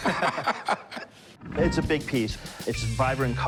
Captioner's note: laughing